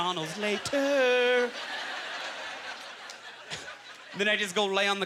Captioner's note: audience laughter